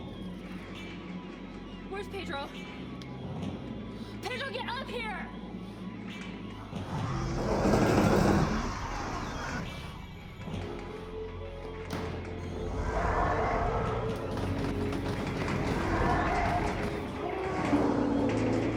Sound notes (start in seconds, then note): 6.0 dramatic music; 6.7 roars